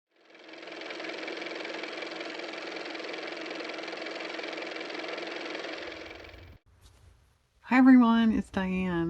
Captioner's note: car motor